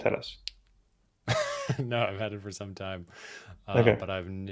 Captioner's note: laughs